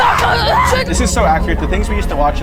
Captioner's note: people exclaiming